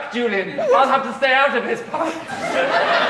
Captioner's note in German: gedämpftes Sprechen